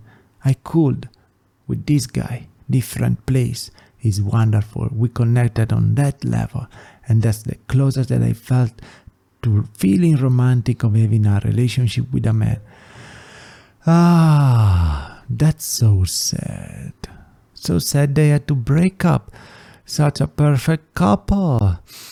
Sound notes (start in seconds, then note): 12.6 inhale; 21.8 sigh